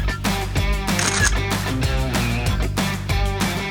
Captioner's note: camera shutter clicks